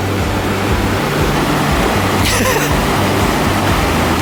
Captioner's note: water crashing; laughs